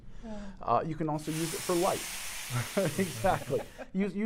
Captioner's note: sizzling sound; laughing